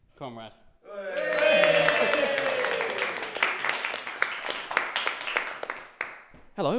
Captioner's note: cheering and applause